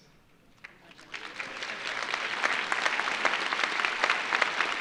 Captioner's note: audience applauding